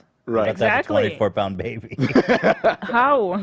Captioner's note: laughs